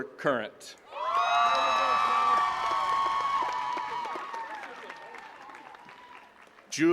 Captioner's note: attendees cheering and clapping